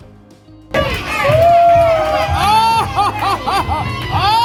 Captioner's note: audience cheering